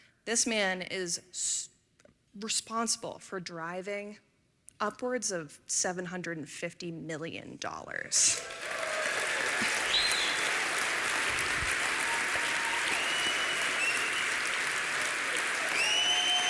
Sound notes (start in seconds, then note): 8.2 applause